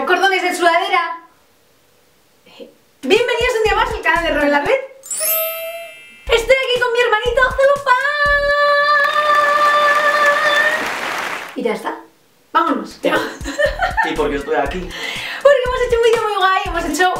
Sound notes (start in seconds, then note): 5.0 shine sound; 10.7 applause; 13.4 laugh